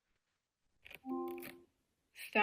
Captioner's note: device chimes